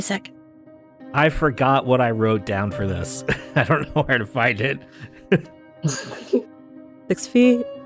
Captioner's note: chuckles